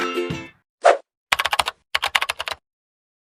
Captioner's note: lively music; screen whooshing; keyboard clacking